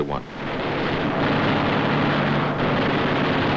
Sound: gunfire

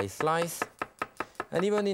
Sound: knife whacking

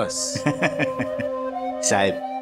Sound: chuckling

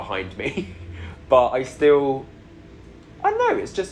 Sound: laughing

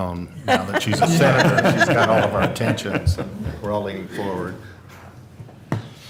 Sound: laughter

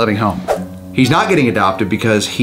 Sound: screen swooshes

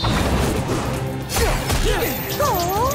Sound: grunting

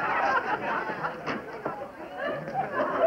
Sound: laughter; eating

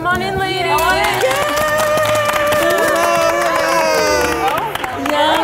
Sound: everyone cheering

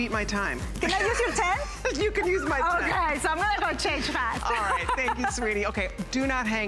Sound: laughter

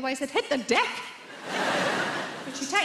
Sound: audience laughs

